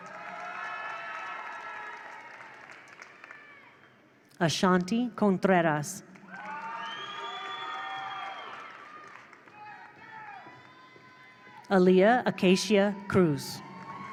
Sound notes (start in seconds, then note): 0.0 attendees cheer; 0.0 attendees applaud; 6.2 attendees applaud; 6.2 attendees cheer